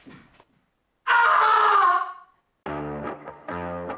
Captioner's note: screaming in disgust